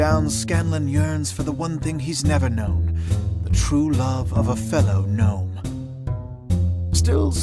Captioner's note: none